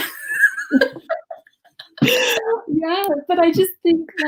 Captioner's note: laughing